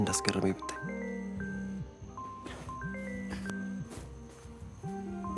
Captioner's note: phone ringing